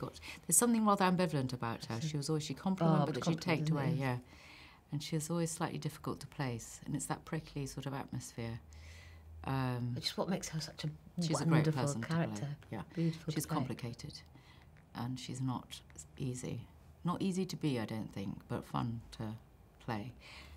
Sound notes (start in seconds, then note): none